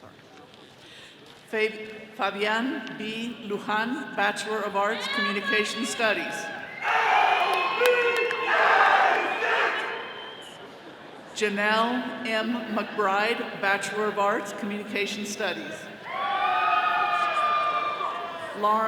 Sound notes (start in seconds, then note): 7.2 attendees chanting; 16.0 all cheering